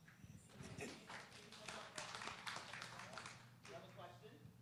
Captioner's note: applause